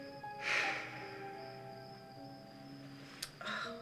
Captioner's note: sighing